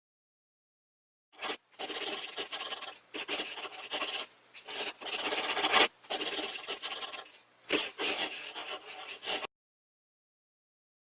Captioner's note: sound of a pencil drawing on paper